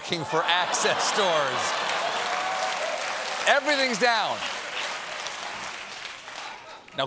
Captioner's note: cheers and applause